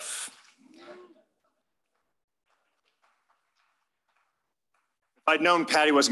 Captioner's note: applause